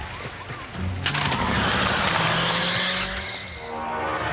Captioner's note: tires squeal